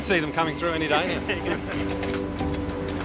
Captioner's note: both chuckle